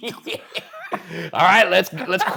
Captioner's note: chuckling; laughing